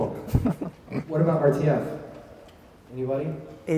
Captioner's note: laughs